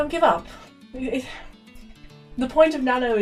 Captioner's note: stammers